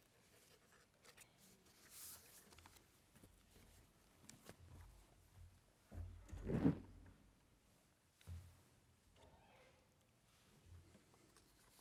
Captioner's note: different language